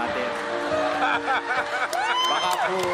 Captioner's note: crowd cheering